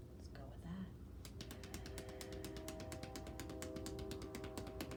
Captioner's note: hands tapping